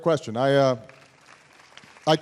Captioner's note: applause